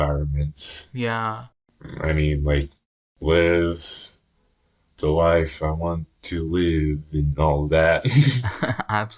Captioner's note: both laugh